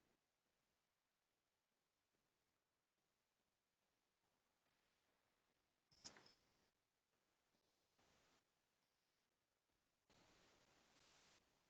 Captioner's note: video continues to roll, but no sound